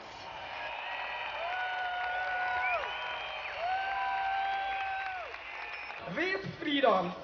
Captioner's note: applause